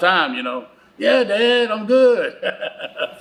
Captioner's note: laughs